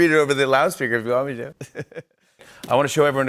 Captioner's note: laughs